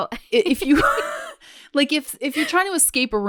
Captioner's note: both laughs